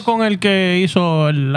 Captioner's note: speaking Spanish